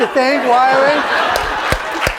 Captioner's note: laughter